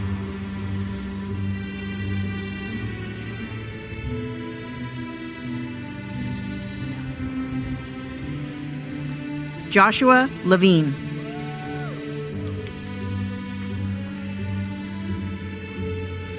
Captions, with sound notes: Joshua Levine. (attendees cheering) (uplifting music continues)